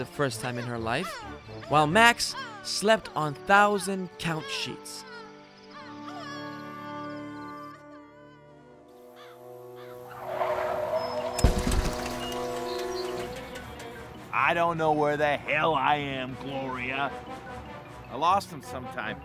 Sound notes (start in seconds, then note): 5.7 sobbing; 6.5 birds squawking; 9.8 tires screeching; 10.2 crashing sound